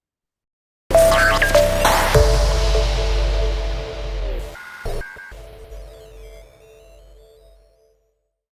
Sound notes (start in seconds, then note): 0.9 lively music; 4.6 robot beeping; 4.6 static crackling